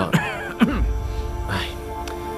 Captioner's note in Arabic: سعال